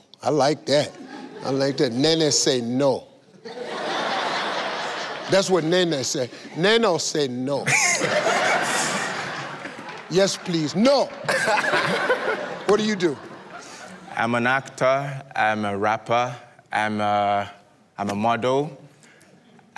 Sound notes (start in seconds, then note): 3.4 laughter; 7.6 laughter; 10.3 in African accent